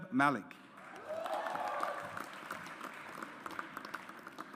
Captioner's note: audience applauds